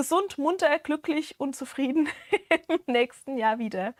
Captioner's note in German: gelächter